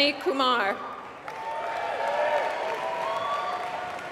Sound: applause

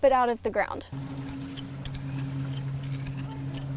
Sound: trowel scraping

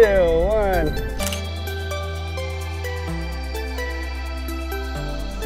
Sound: camera beeps and clicks

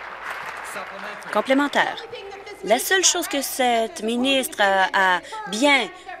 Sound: applause

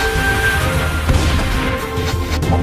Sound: shooting

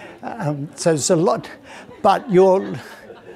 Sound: audience laughing

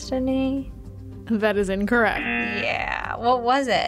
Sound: buzzer rings

